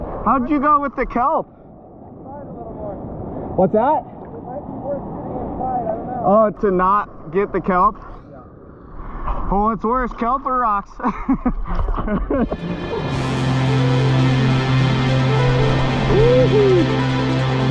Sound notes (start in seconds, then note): 12.4 laughing; 12.5 upbeat music